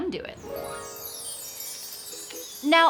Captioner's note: magical twinkling; whimsical music